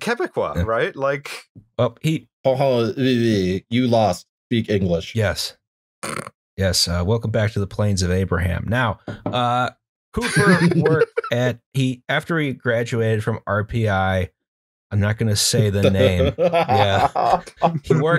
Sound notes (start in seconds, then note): 1.1 make Francophone noises; 10.2 laughter; 15.8 laughter